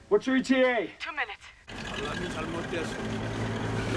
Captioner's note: Korean